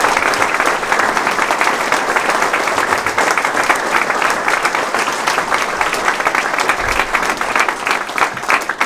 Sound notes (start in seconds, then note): 4.9 applause